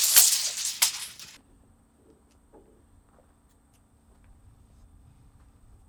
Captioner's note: measuring tape crinkling